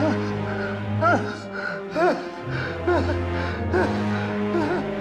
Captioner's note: vocalizes in fear